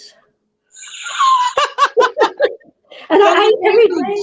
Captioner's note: both lightly laughing